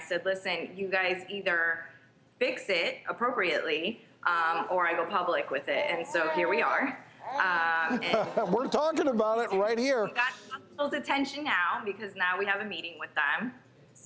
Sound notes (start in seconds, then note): 7.3 laughs